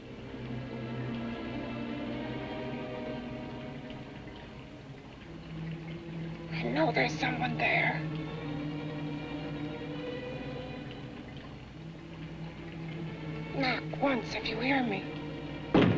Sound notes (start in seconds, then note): 0.2 liquids bubbling; 0.2 ominous music; 9.9 liquids bubbling; 9.9 ominous music; 15.8 knocks once on door